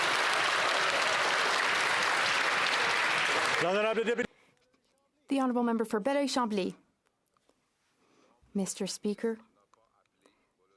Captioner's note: some Applause